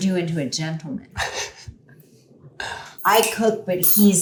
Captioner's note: Mark laughing